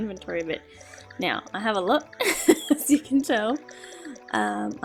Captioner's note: laughs